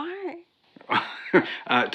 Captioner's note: Tom laughs